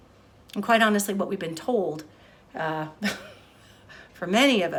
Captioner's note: chuckles